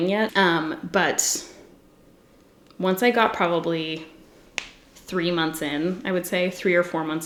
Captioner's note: knuckles crack